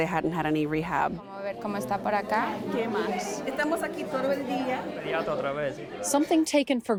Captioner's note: doctors speaking in foreign language